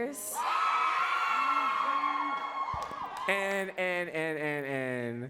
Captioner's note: audience cheering louder